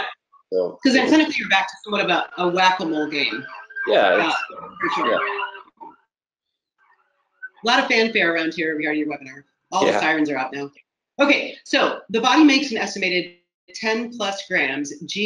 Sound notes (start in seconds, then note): 2.8 sirens blaring